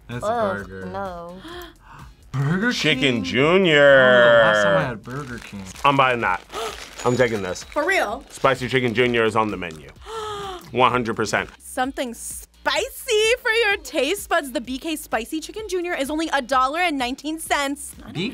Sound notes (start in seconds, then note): 1.3 React gasps; 1.4 gasps; 6.4 React gasps; 10.0 React gasps